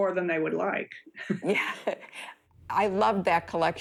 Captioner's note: chuckles